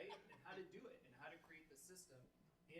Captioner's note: members laughing